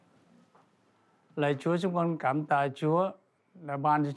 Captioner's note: speaking Vietnamese